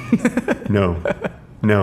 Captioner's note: man laughing